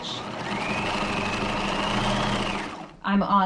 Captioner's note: sewing machine whirring